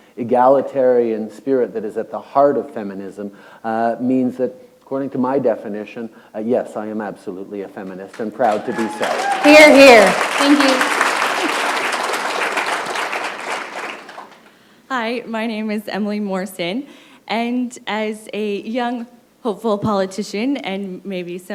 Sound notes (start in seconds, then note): 9.7 applause; 13.3 applause